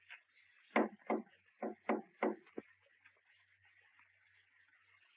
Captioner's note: tapping lightly